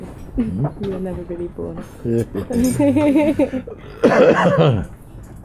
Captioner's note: laughter